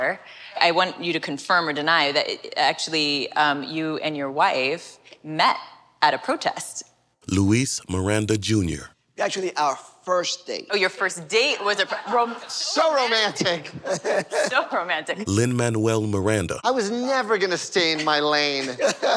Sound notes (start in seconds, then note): 11.6 laughter